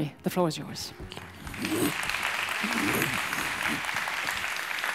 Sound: audience applauds

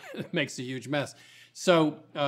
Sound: laughs

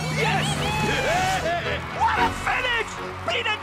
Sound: laughing

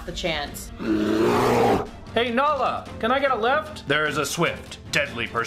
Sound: angry bear

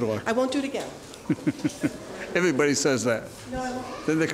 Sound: chuckles

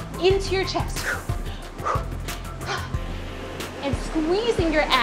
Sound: breathing heavily

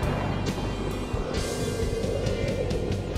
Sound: wind whistling

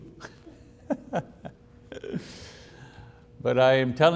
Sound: laughing

